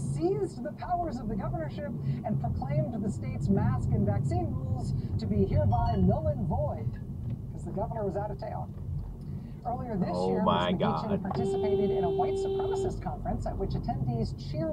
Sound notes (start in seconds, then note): 11.3 beeeeeeep